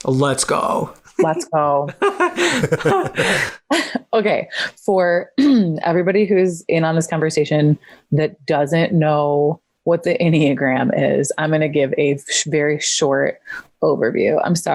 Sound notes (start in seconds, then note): 1.1 both laugh